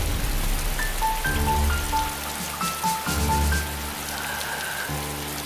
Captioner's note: rain; gentle piano